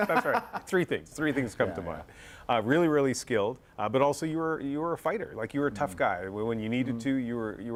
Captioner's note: laughter